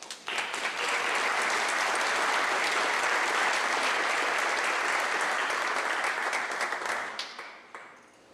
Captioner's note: clapping